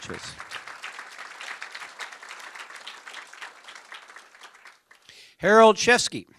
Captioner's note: applause